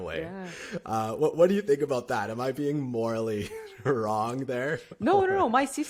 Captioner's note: laughter